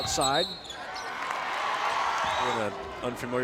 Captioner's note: whistle blows